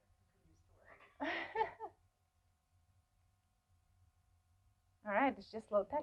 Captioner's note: laughs